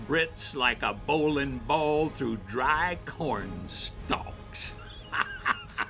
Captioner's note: laughs